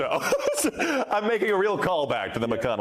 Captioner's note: laughter